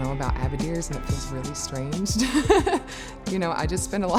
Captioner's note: laughs